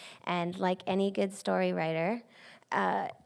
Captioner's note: none